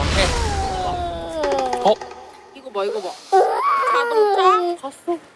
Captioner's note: waaaah; the baby cries even louder